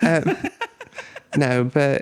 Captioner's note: laughing